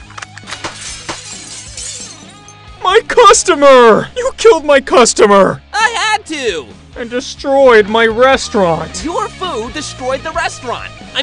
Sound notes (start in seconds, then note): 0.5 another gun shoots multiple times followed by chaos